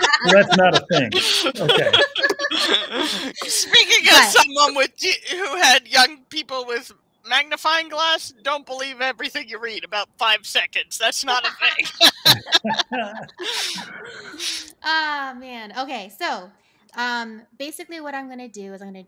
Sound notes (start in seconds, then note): 0.0 all laughing; 11.0 all laughing